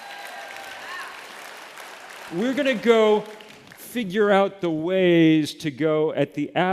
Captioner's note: applause